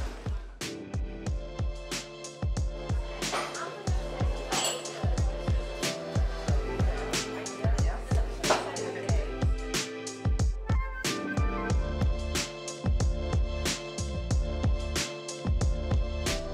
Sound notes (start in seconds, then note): 0.1 relaxed music; 3.1 people chattering; 4.4 cups clattering